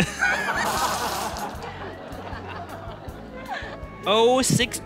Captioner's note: audience laughing